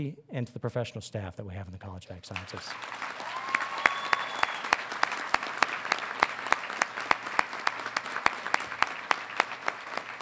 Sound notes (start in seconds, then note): 2.3 audience applauding; 2.8 audience cheering